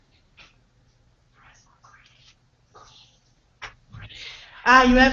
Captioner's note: silence